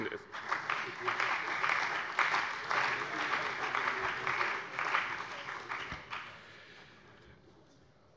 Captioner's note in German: Beifall bei dem BÜNDNIS 90/DIE GRÜNEN und der CDU